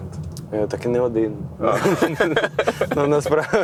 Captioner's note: laugh